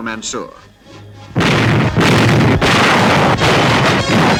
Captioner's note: bombs exploding